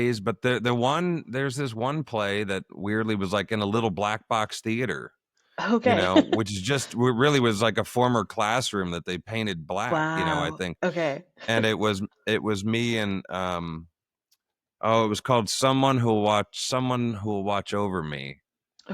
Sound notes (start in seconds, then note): 5.8 laughter